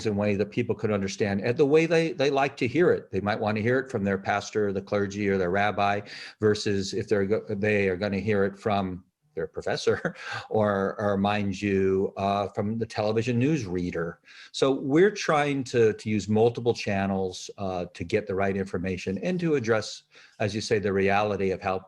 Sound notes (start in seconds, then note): 9.8 chuckles